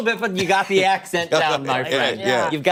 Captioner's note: laughter